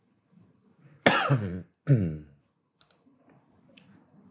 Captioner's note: coughing